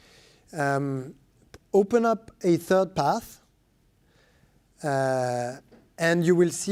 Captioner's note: speaking french